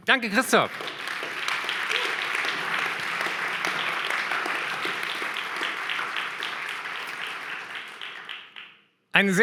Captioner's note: applause